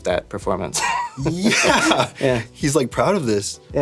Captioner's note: chuckling